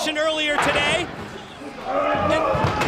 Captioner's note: crowd chatter